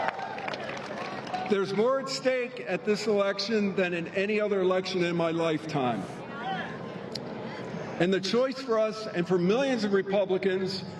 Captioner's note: cheers and applause